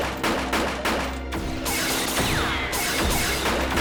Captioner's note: bullets ricocheting